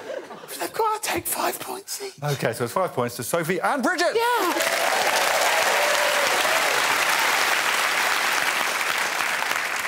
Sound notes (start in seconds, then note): 4.4 cheers and applause